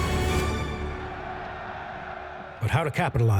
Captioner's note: intense music; crowd cheers